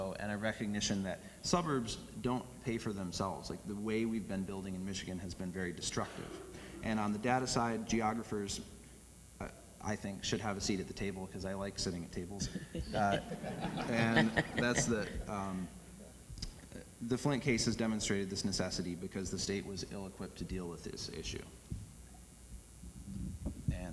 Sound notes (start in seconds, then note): 12.4 audience laughs